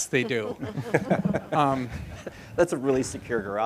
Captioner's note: audience laughing